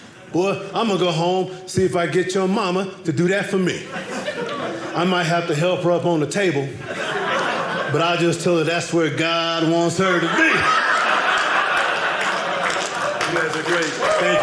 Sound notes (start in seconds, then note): 10.0 audience laughing